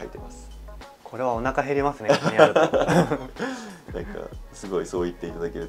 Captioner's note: laughs